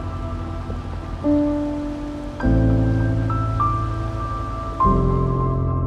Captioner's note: river burbling